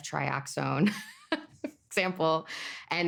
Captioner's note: laughing